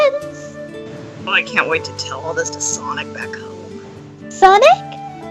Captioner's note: mumbles